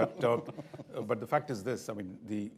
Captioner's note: laughter